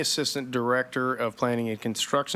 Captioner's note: none